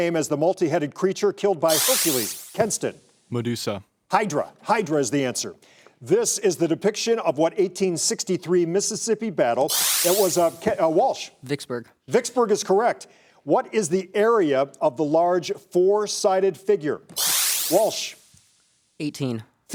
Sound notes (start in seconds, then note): 1.8 buzzer sounding; 9.7 buzzer sounding; 17.2 buzzer sounding